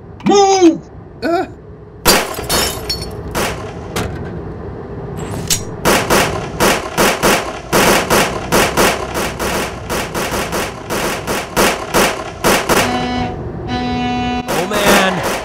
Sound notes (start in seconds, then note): 0.4 screams; 12.8 truck honks